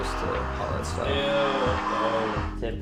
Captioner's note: video game playing